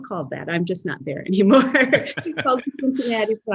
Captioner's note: laughs